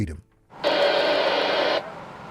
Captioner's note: radio static